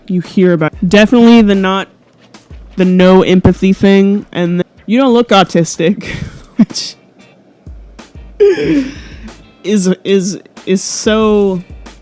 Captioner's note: laughs a little bit